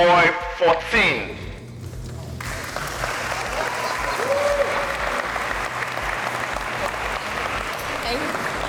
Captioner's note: applause